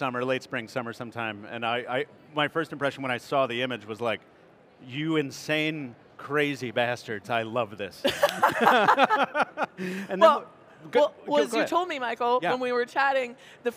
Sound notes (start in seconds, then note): 8.0 group laughing